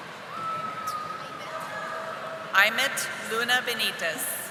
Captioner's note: audience applauding